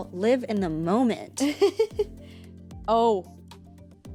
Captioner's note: laughs